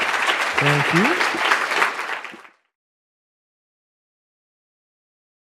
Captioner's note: audience applause